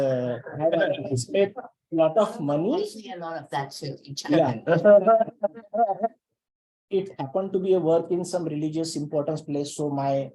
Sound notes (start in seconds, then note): 0.5 laughter; 4.6 laughter